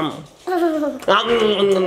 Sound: person exclaiming; child laughing; person exclaiming

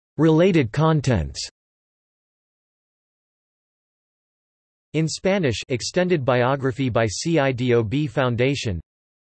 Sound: in Spanish

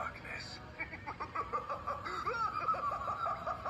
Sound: crazed laughing

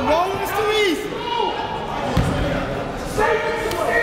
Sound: coach yelling

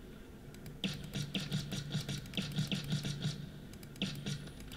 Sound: shots

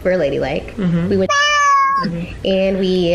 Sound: meows

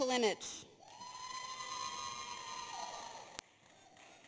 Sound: audience cheers

